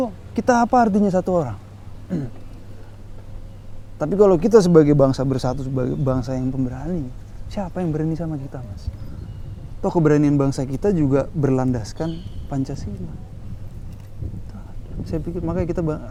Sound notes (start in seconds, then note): 2.0 coughs